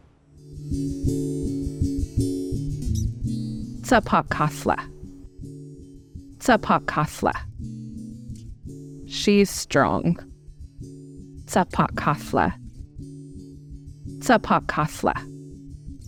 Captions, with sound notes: (calm music) (woman speaking in foreign language) - She's strong. (woman speaking in foreign language)